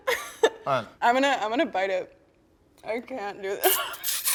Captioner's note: laughs; laughs